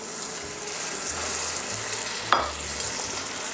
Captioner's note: sizzling sound